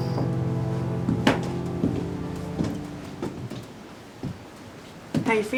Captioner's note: footsteps thumping